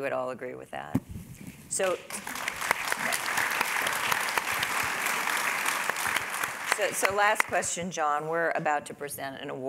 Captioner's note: applause